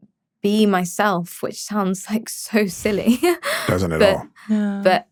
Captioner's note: chuckles